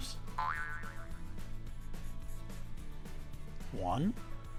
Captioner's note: spring bouncing